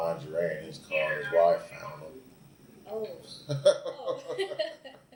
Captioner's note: both laugh